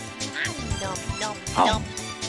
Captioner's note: eating Noises